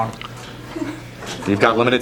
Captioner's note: giggling